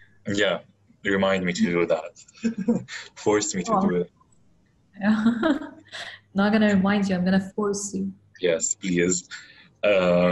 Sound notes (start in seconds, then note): 2.5 both laugh; 5.5 laughs